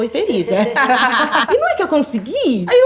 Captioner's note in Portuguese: risos